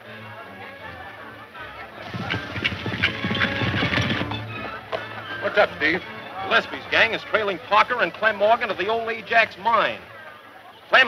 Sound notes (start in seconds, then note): 0.8 dramatic music; 1.9 horse galloping